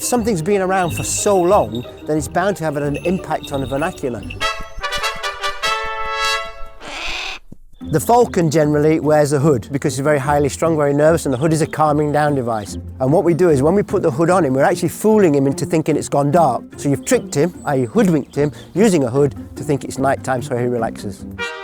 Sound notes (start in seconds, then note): 4.5 triumphant trumpet music; 6.1 bird crows